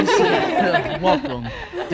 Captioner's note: group laughing